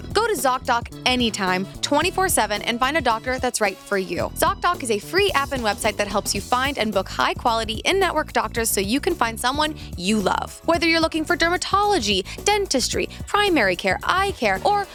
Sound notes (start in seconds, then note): none